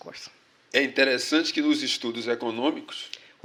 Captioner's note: speaking portuguese